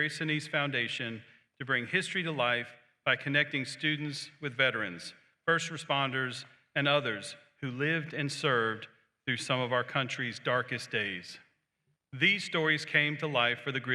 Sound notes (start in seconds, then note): none